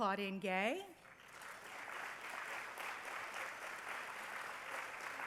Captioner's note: applause